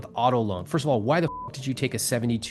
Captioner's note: beep